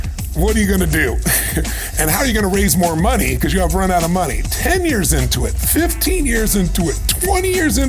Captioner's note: chuckle